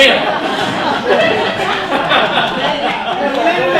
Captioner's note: laughter